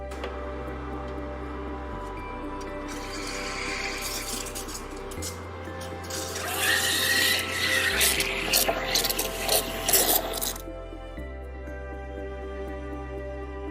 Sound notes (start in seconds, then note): 0.3 coffee maker roaring; 2.8 machine sputtering; 6.0 machine whistling